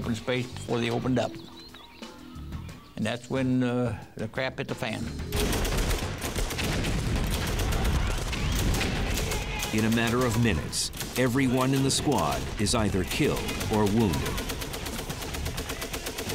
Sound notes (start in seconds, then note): 5.1 gunshots